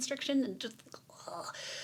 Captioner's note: deep sigh